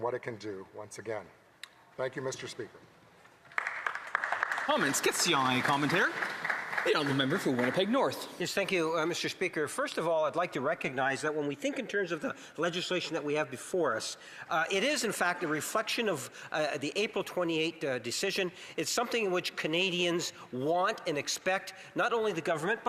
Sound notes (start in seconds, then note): 8.4 some Applause; 10.3 speaking French